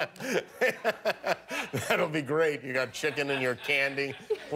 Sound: laughter

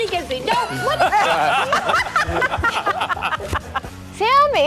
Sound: anchors laugh

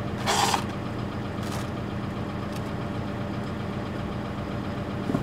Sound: concrete blocks scraping

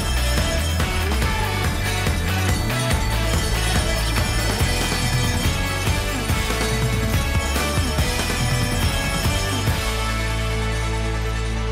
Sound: bells Ringing

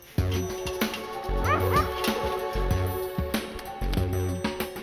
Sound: dog barking

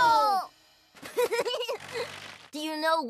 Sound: laughs

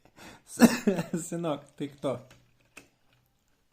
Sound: coughing; laughing

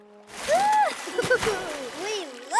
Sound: laughing

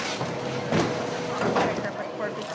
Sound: bag thuds

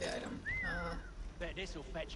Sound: whistles

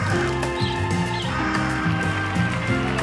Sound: cat meows; birds chirping; audience applauding

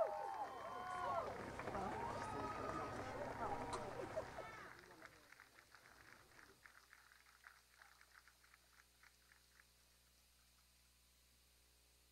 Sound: cheers and applause

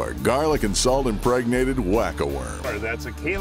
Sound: voiceover

